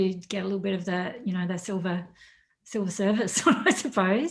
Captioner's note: laughs